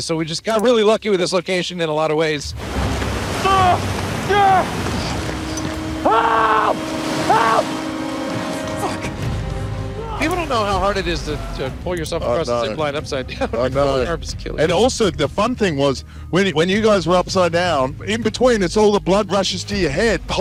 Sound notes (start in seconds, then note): 2.8 soldier shouting; 2.8 suspenseful music; 10.2 soldier shouting